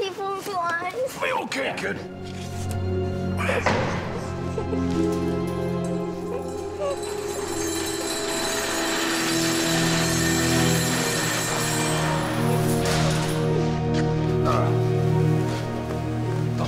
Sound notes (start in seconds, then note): 2.7 car door closing; 8.4 warehouse door closing